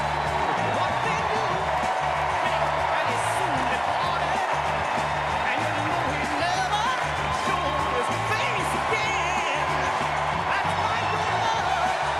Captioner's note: cheers and applause